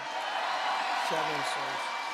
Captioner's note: applause